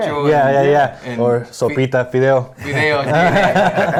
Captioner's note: speaking foreign language; all chuckle